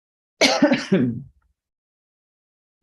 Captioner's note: clears throat